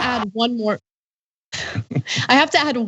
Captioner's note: laugh